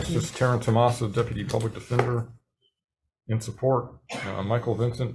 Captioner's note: papers rustling